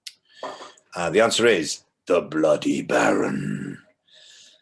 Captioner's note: growls